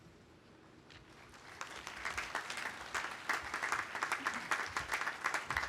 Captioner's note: audience applauding